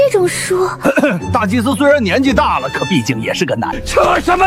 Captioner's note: cough